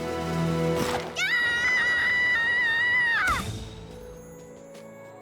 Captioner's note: screams